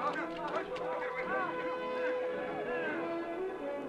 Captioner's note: chatter